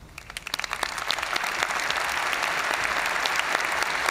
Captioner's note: audience cheering and applauding